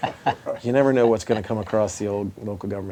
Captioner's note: laughter